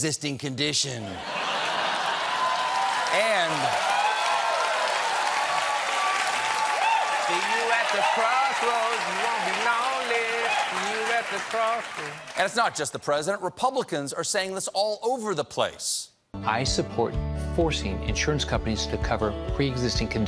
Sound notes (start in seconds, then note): 1.2 cheers and applause